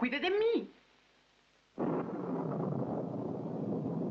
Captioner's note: thunder Continues